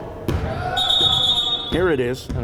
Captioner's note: whistle blowing